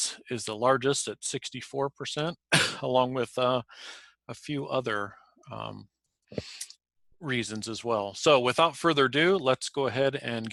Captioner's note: cough